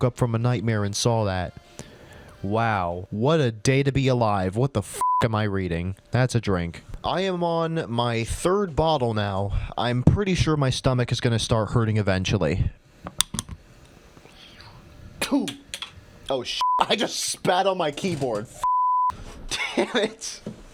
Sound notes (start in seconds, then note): 14.2 ptoo!; 19.5 cracks up